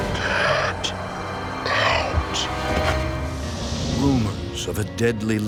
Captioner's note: deep Disembodied Voice